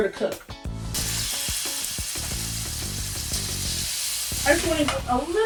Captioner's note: oil sizzling